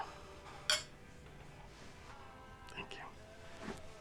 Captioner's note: glasses clink